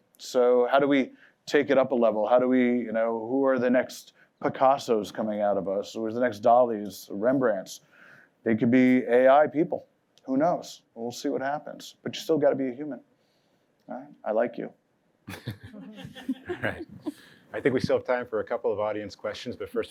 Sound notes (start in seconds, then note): 15.2 laughter